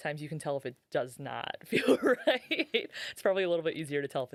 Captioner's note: laughing